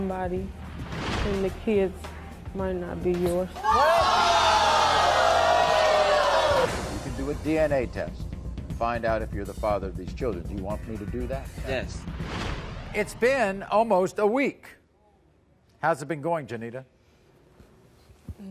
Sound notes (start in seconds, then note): 3.6 audience boos